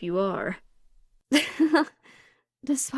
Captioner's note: Calissa laughs